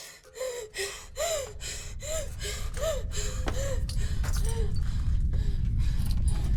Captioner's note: Abby pants; faint rumble